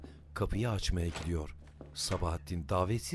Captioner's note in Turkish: Ayak sesi; Kapı açılma sesi; Kapı gıcırdama sesi